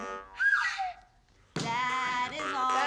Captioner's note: slide whistle flourish